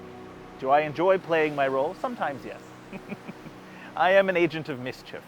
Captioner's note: chuckles